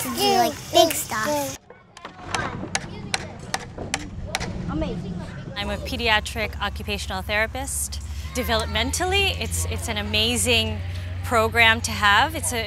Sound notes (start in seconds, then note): 2.0 banging; 2.3 chattering